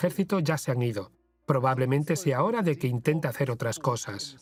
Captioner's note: voiceover